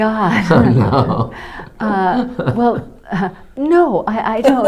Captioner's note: laughs